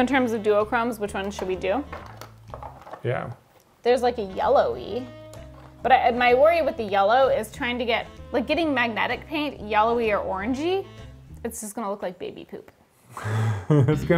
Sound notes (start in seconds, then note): 1.8 containers rattle; 13.2 laughs